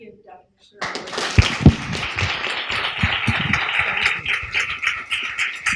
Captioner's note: applause